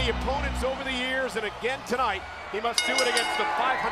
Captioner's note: bell ringing